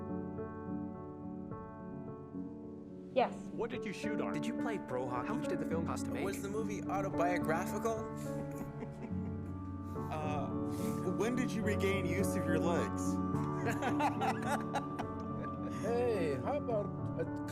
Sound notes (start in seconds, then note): 7.2 chuckling; 13.4 laughing